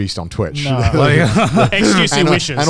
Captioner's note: all laughing